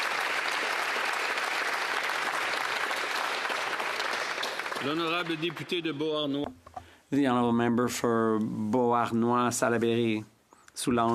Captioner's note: applause